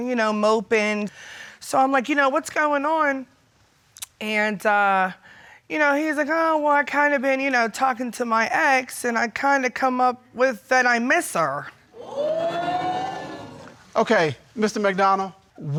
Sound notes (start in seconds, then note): 11.9 crowd woots